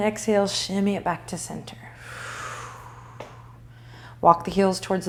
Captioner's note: breathing